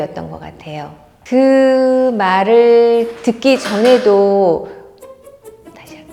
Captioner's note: clack